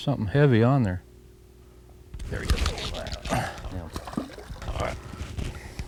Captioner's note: reel noise